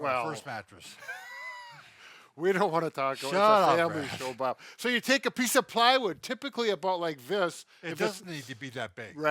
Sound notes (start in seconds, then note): 1.0 laughter